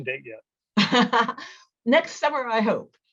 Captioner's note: laughs